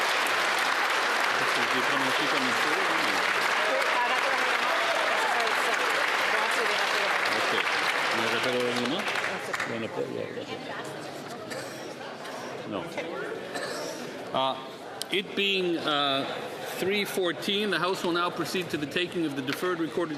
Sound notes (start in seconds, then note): 4.9 applause